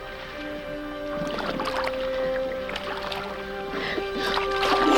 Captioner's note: water sloshes